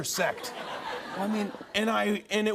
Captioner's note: laughter